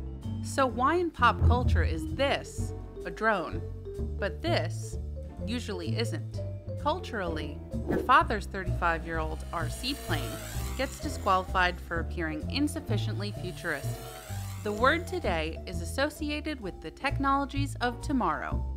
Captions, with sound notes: So why in pop culture is this a drone, but this usually isn't? Culturally, your father's 35 year old RC plane gets disqualified for appearing insufficiently futuristic. The word [Drone] today is associated with the technologies of tomorrow,